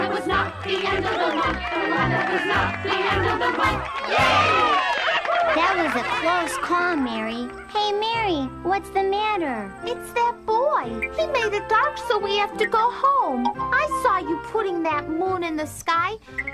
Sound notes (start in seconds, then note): 0.2 cheers and applause